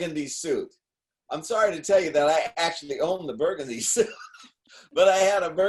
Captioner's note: laughing